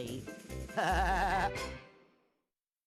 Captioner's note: laughing